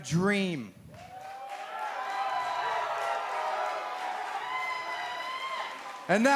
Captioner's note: crowd cheering